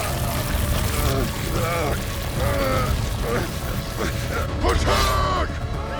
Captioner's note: powerful arcane crackling; grunting continues